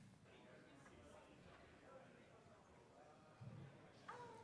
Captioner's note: audience chatter